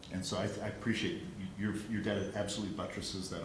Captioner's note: none